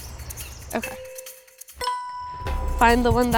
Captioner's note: bell dings